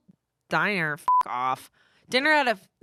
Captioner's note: beep